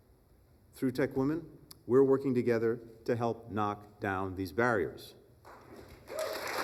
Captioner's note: applause